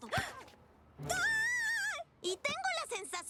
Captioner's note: shriek